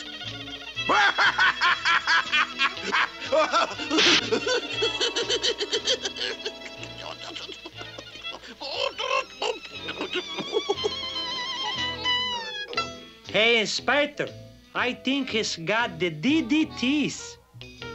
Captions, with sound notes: [laughing manically] [sputtering] Hey, Inspector, I think he's got the DDTs!